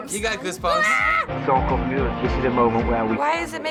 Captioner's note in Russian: восклицает в волнении